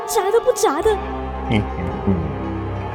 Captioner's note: hehehe